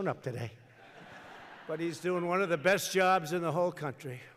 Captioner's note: laughter